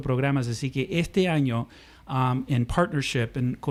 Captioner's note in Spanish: Hablando ingl\s